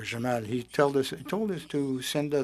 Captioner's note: speaking French